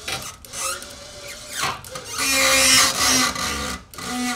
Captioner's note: squealing